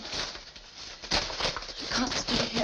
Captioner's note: objects clattering